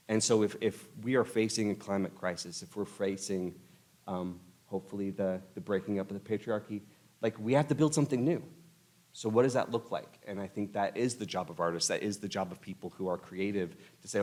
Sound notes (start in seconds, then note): none